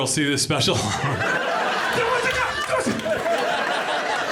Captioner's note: audience laughing